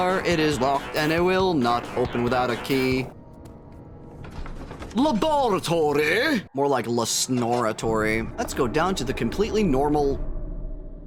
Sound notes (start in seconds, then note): 0.0 singing; 5.0 britishly